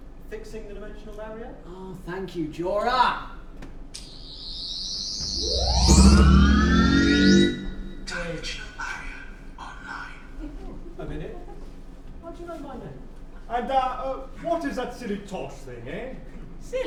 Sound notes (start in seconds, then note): 4.0 sonic screwdriver buzzing; 5.9 powering up sound